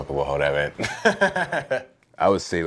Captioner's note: laughs